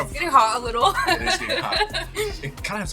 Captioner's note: laughing